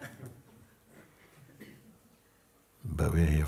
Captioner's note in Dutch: gelach